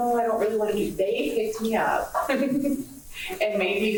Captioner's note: laughs